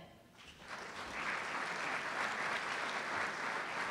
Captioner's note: applause